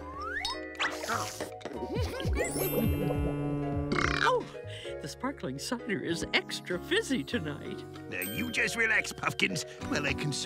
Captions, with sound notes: [burping] Oh. Oh, the sparkling cider is extra fizzy tonight. Now you just relax, Puffkins, while I consult